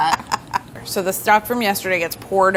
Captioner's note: laughter